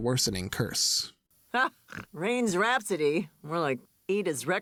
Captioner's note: laughs